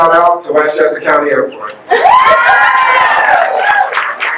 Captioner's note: guests laugh/cheer